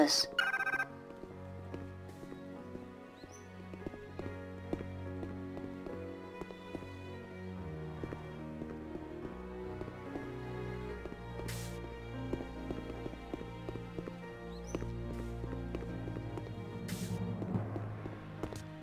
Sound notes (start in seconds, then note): 0.0 phone ringing; 5.7 somber music